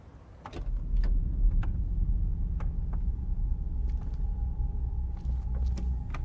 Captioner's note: door clicking; tense music